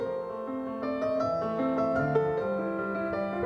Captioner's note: none